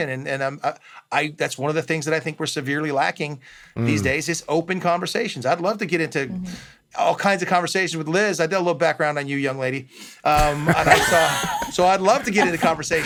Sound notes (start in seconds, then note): 10.3 laughs